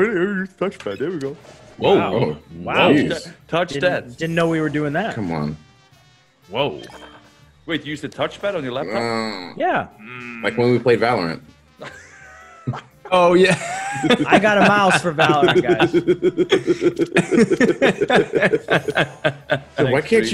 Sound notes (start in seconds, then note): 13.4 laugh